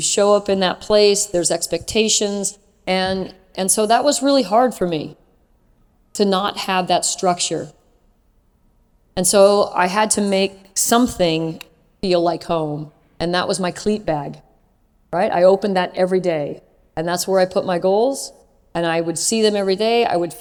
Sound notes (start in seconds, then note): none